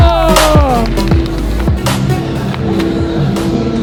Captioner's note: cheering